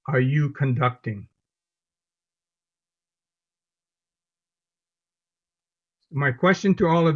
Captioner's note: silence